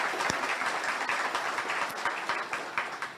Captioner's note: audience applauds